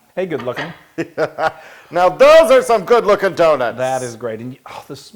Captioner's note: laugh